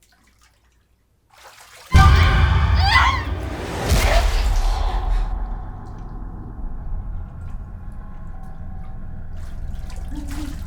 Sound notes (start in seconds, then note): 1.9 Lorraine screaming; 1.9 intense music